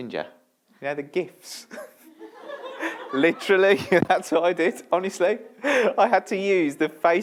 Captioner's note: laughter